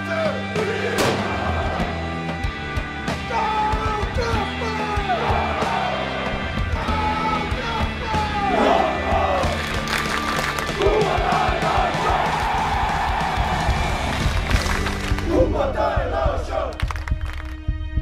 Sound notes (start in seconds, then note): 0.1 fans shouting; 10.7 fans shouting